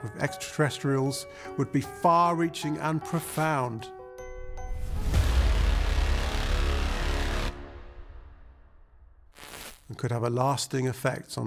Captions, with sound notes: with extraterrestrials would be far reaching and profound, (dramatic music) (static crackling) and could have a lasting effect